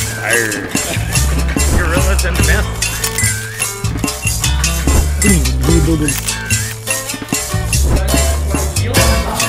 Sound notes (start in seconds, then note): 3.2 mellow music; 5.3 shivering; 6.7 mellow music